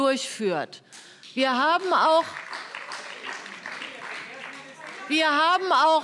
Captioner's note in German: Beifall